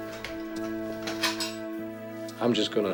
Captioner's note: cutlery clanking